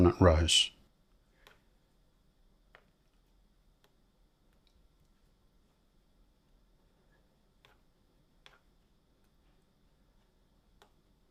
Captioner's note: silence